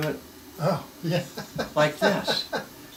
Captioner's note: laughs